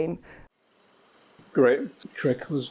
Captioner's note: film reel spins